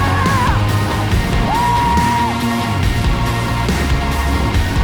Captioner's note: man whooping; upbeat electronic music